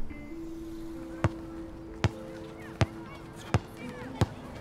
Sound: ball thudding; indistinct chatter

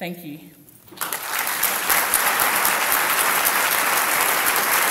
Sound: audience applauds

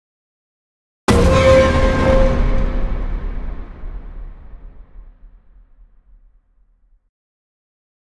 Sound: sound of warning

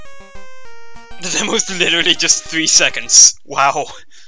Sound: laughing a little

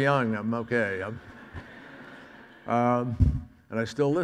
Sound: audience laughs

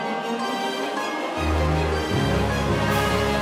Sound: heavenly noises

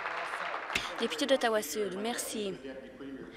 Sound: applause

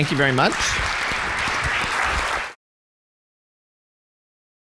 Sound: audience clapping

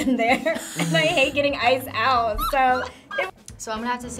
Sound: both laugh

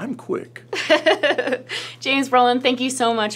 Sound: laughs

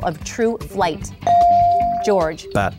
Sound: ding

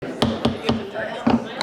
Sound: gavel Tapping

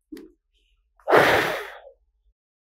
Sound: blowing sound

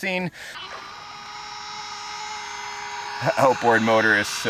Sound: engine whirring

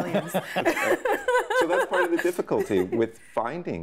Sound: laughing

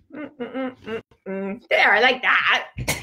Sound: humming

